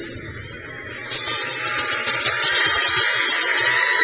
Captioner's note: crowd cheers